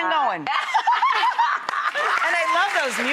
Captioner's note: laughs loudly